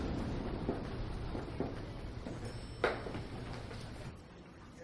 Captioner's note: people chattering